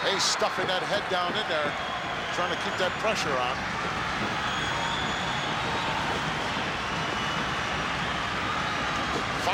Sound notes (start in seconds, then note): 4.4 crowd stomping